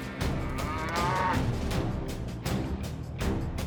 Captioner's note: cattle moo